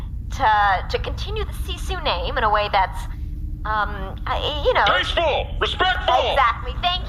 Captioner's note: shouting nervously